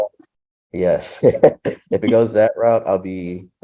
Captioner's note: chuckles